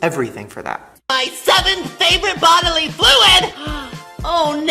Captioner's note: gasps